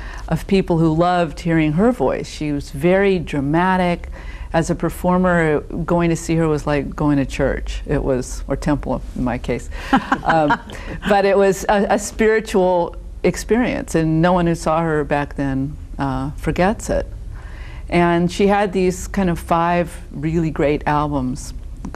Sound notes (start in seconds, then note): 9.9 laughing